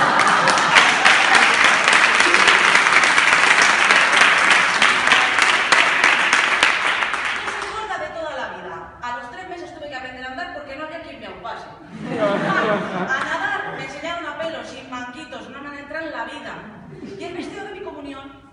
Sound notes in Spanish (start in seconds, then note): 0.0 Risas; 0.0 Aplausos; 11.8 Risas